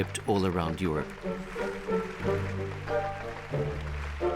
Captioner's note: applause